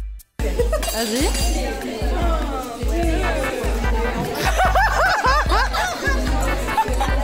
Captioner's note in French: rires